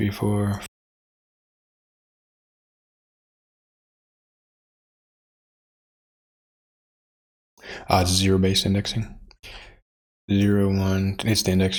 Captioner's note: blank Audio